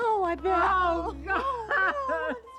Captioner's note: crying